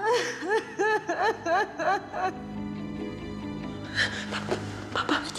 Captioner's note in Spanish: llanto desconsolado